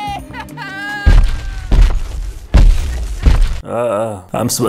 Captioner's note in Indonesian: suara efek jalan orang gendut